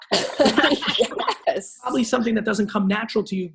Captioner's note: laughs